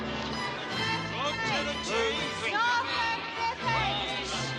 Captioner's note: CHATTERlNG